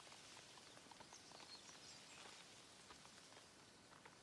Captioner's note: leaves rustling